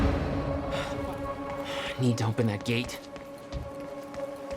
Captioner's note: breaths heavily